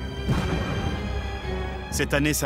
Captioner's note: cannon shot